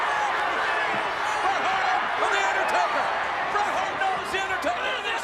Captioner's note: crowd cheering; overlapping chatter